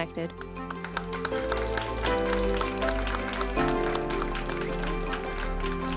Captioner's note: bright music; audience applauding